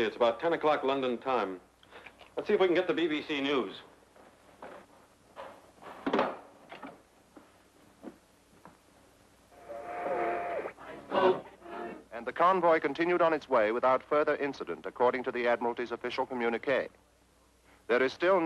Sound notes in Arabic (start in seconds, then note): 10.3 طقطقة ثابتة